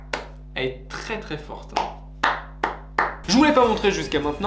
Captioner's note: applause